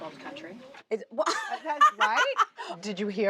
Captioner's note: laughing